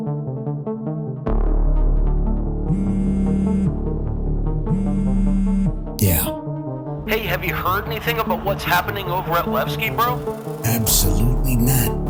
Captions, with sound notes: [phone vibrates] Yeah. Hey, have you heard anything about what's happening over at Levski, bro? Absolutely not.